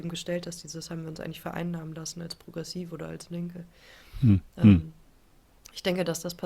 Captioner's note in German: räuspern